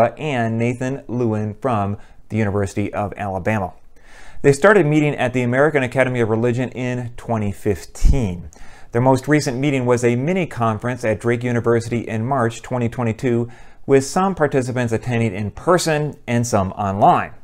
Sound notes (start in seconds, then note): none